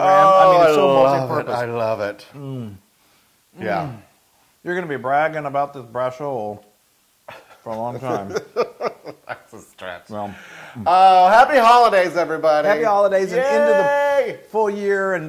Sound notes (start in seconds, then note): 7.3 laugh